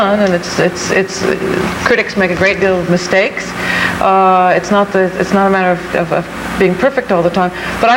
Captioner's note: none